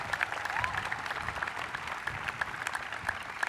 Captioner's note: applause